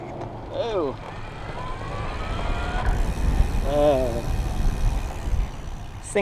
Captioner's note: motor whining sound